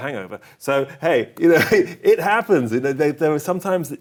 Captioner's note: chuckling